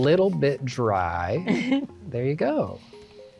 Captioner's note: laugh